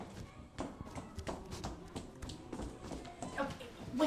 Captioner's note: heels clicking